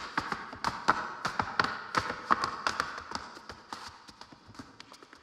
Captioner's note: shoes clacking